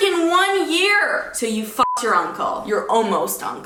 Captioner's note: beep